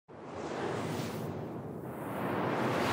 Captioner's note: whooshing